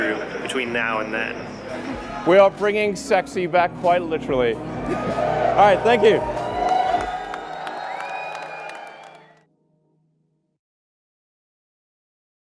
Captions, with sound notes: between now and then. We are bringing sexy back quite literally. All right, thank you! (cheers, whistling, and applause)